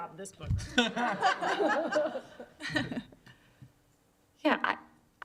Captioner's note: laughter